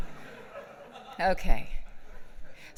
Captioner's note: laughs